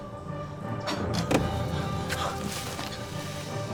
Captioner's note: arrow hits